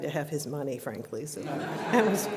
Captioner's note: laughter